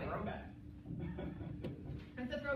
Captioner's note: laughter